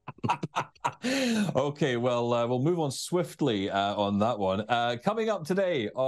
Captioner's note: laughs